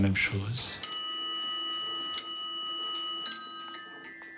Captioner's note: clock chiming